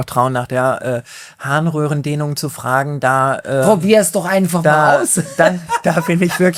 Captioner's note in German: gelächter